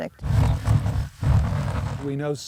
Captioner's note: rumbling of sieve